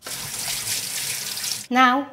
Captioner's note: water running